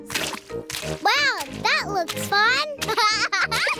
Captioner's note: laughs